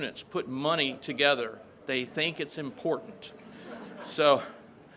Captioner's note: crowd laughs